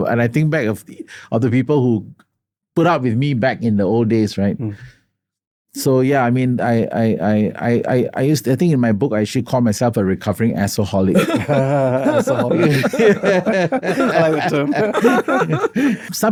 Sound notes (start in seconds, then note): 11.1 laughter